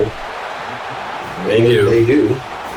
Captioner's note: crowd Noises